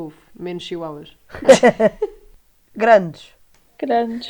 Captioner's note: laughs